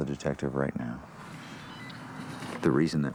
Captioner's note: phone beeping